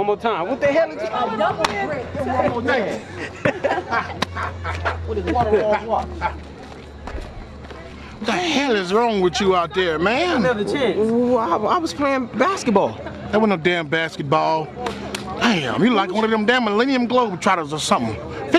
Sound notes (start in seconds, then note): 1.3 laughing; 14.8 laughing